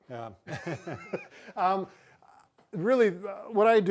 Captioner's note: both laughing